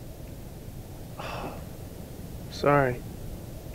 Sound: sighs

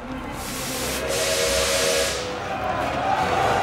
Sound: train whistling

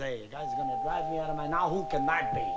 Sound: doorbell rings

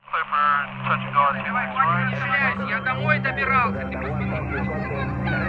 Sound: sound of chatter

